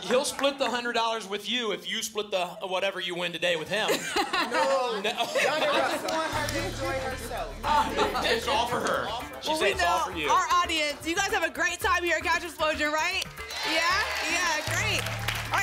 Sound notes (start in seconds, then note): 3.6 laughter; 13.3 applause and cheering